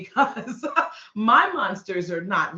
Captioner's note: laughing